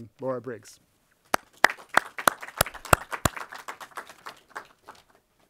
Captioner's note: audience applauding